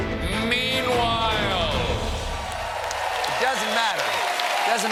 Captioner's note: cheers and applause